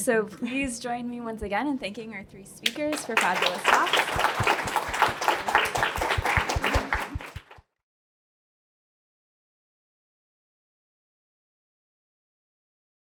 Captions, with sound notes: so please join me once again in thanking our three speakers for fabulous talks. [APPLAUSE]